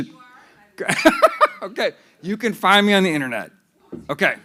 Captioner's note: laughs